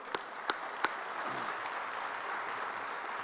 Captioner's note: applause